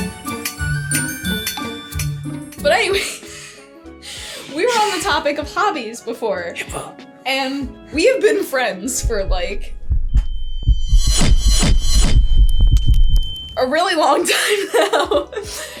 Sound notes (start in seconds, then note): 9.0 heartbeat speeds up; 9.0 tense sounds